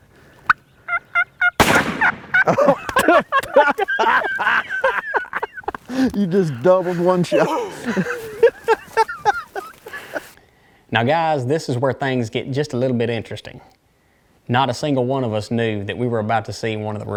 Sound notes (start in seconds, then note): 1.6 gun shooting; 2.0 laughing